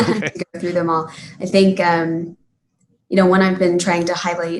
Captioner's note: laughing